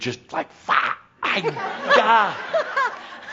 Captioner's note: laughter